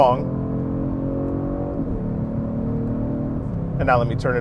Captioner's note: car engine roaring